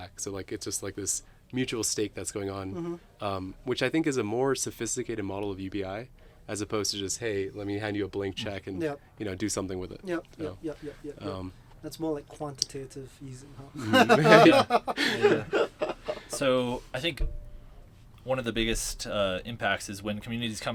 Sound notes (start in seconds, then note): 13.8 both chuckling